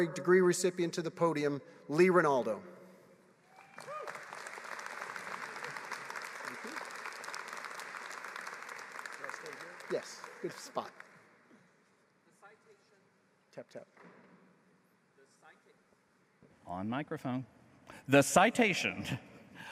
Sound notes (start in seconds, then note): 7.1 applause